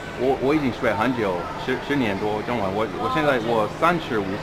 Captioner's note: mandarin